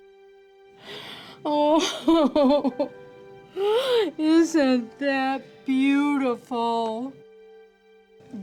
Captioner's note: crying